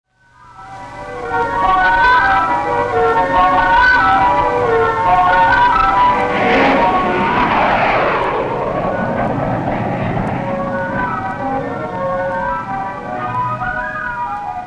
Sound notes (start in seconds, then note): 0.4 lighthearted music playing; 6.8 plane engine roars